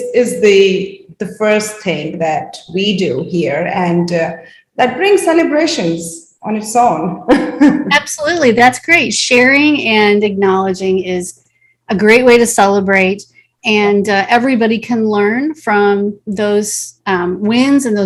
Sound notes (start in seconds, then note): 7.2 chuckles